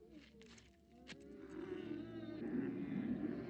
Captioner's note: camels groaning